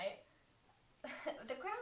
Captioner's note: giggle